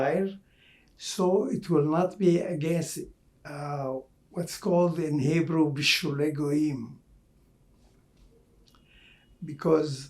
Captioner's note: hebrew